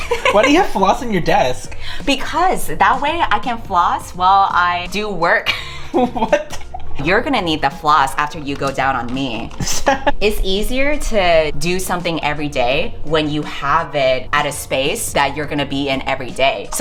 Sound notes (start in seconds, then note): 0.0 both laugh; 5.4 laughing; 5.4 laughs